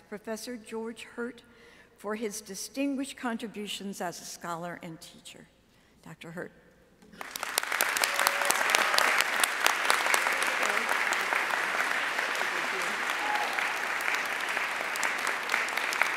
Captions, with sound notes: Professor George Hurtt for his distinguished contributions as a scholar and teacher. Dr. Hurtt. (audience applauding)